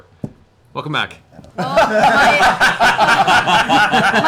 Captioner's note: laughter